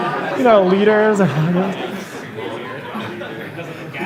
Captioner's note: laughter